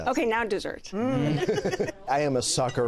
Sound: laughs

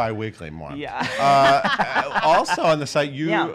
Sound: laughs

